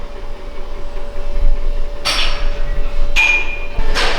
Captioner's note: metal Clanking